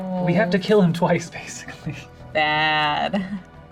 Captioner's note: laughs